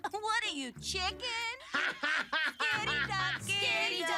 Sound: laughing

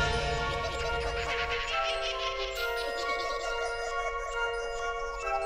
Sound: wild animal hooting; magical music

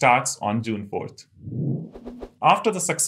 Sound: sound effect

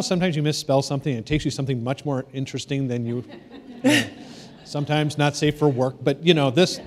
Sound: laughter

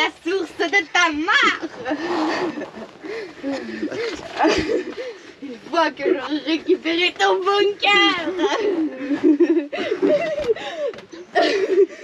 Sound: laughs

